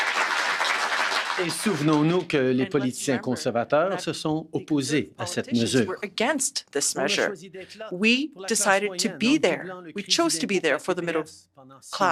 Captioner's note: applause